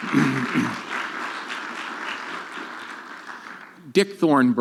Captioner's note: audience clapping